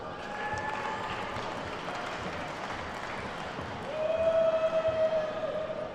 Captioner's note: attendees whooping and clapping